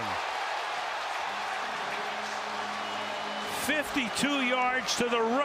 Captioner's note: crowd cheering